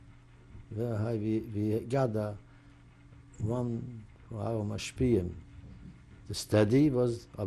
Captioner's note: non-english